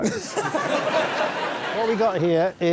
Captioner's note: laughter